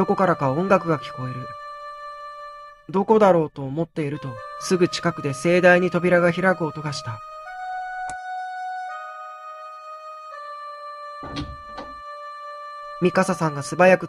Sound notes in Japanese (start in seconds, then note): 0.0 明るくて軽い音の曲; 11.2 扉の開く音：ガッチャン; 13.2 明るくて軽い音の曲